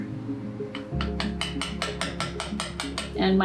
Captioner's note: tapping